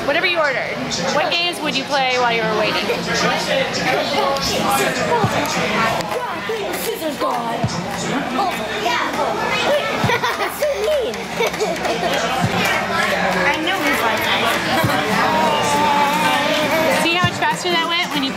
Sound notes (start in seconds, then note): 7.6 exclaims; 9.6 laughing; 11.9 chattering in the background